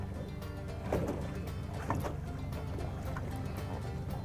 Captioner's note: water splashing